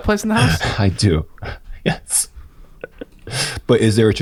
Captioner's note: laughs